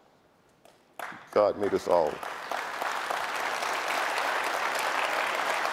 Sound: audience applauding

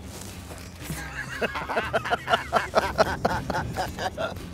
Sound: both laughing

